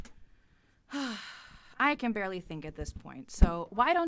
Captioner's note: sighs